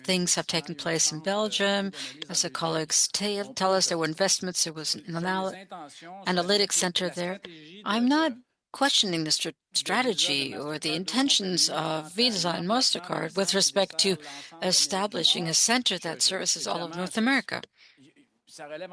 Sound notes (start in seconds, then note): 2.6 speaking French